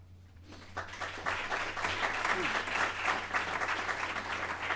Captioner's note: applause